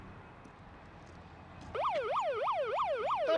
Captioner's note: police sirens